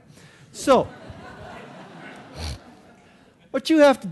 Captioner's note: audience laughing